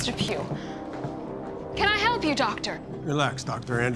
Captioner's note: footsteps approach